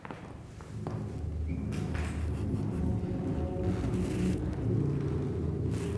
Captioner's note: muffled rumbling